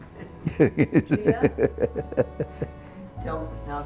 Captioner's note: laughs